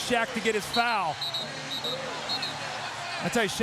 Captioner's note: whistle blows